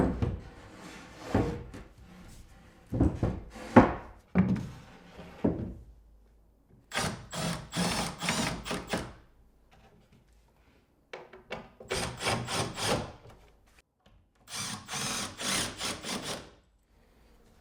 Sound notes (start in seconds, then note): 0.2 board thudding; 6.9 drill whirring; 12.1 drill whirring